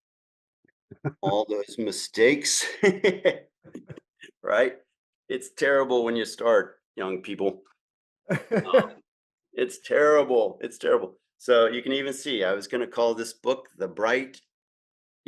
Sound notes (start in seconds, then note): 3.3 laughs